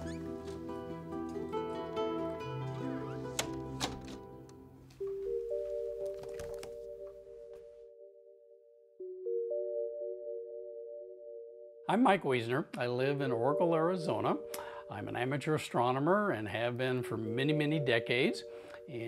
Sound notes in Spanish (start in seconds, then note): 2.5 puerta se cierra